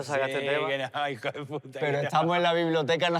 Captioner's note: laughs